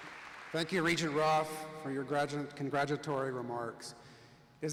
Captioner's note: applause